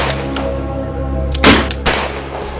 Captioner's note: gun Shots; gun Shot